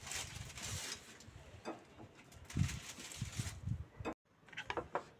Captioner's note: paper bag rustling